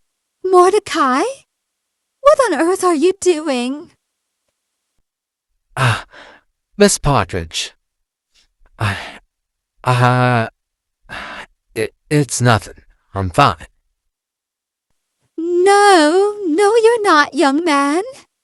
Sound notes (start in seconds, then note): 11.1 sighs